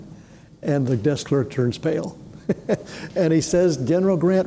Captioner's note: chuckles